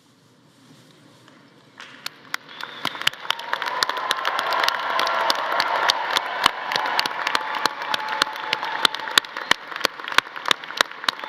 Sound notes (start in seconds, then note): 2.1 audience applauding; 2.4 audience cheering